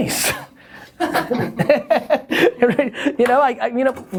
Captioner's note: laughter